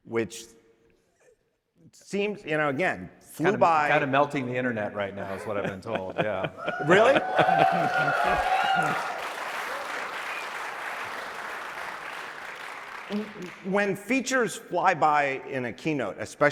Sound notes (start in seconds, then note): 6.6 audience cheering